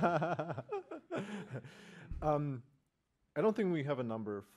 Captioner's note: laughs